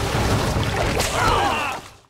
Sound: screaming

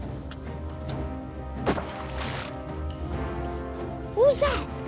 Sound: stick splashes water

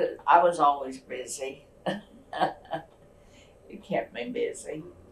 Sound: laughs

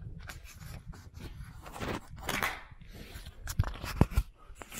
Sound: camera rattling

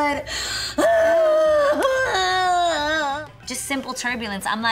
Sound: cries out

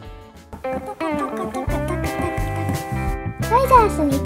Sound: the sound of hoofing it

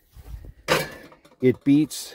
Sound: metal clangs

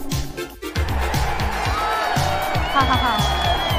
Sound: cheering; dr. vanessa chuckles

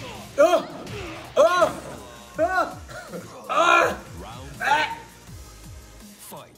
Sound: laugh

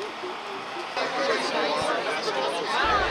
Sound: bus hissing; humming

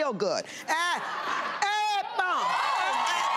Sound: applause

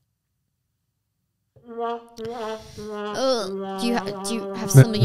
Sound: mocking sound

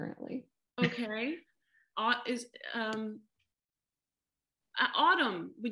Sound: laughter

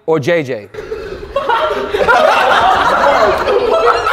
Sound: group laughs

